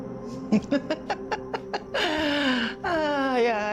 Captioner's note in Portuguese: trilha de suspense; Cátia ri